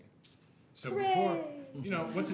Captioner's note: laughter